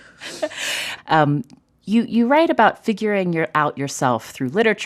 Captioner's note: laughter